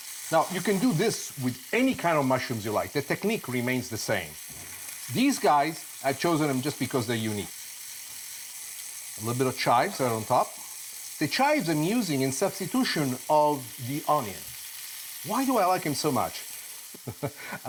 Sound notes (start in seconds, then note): 7.8 loud sizzling; 17.0 laughs